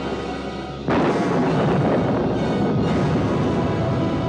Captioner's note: thunder continues rumbling